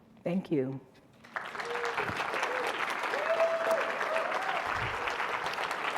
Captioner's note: audience applauding